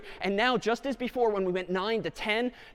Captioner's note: none